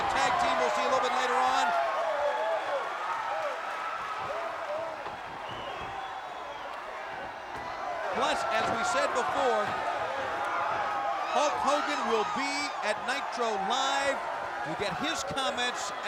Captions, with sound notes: a tag team we'll see a little bit later on. (crowd cheering) Plus, as we said before, Hulk Hogan will be at Nitro Live. We'll get his comments